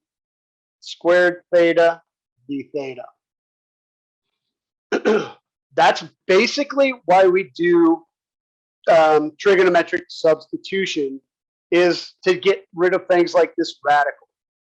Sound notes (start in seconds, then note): 4.9 cough